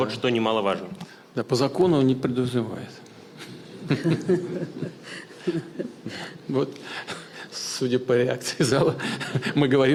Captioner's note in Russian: Смех